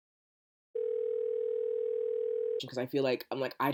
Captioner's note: phone ringing